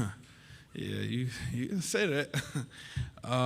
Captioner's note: chuckles